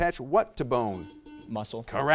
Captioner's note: buzzer buzzes